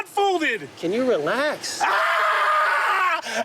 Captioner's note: screams